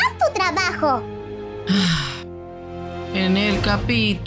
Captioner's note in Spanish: suspiro